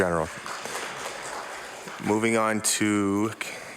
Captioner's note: applause